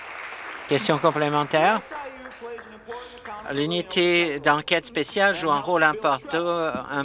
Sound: applause

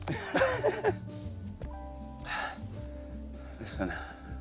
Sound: laughing

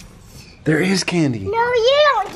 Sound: gasps

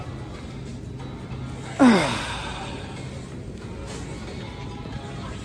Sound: groans as she reaches for soda pop

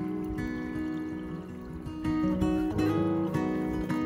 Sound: gentle stream sound

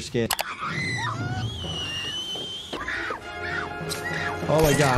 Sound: scream

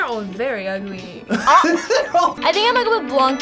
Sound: laughs

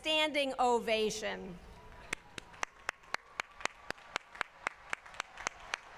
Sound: applause

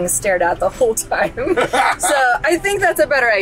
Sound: laughs

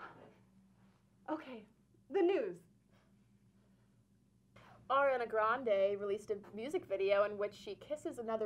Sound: none

